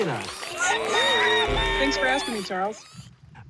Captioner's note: animals cheering